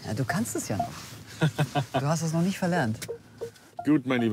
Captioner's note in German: lacht